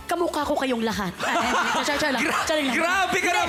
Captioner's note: robi laughs